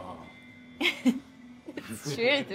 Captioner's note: Keely chuckles